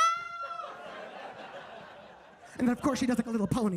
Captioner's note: audience laughing